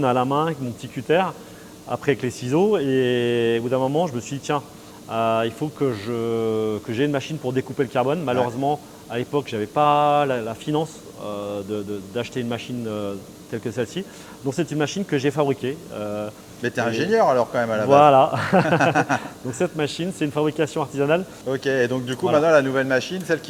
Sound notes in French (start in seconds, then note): 18.2 rires